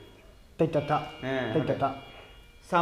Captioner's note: continues reading the Pali